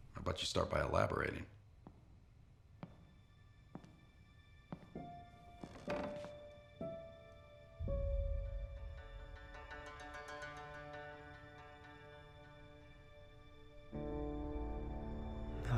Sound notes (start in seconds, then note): 3.7 footsteps; 4.7 floor creaks